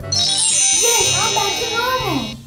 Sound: twinkling

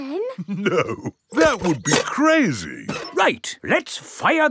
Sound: chuckling

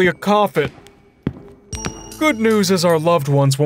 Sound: footsteps thumping

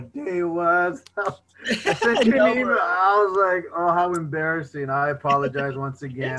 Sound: laughter

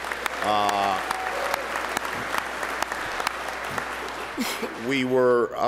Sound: applause

